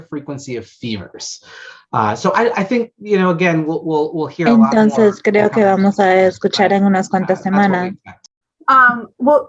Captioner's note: offscreen spanish interpreter speaks briefly